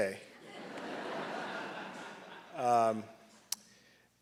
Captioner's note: audience laughing